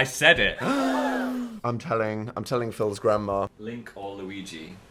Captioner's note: gasps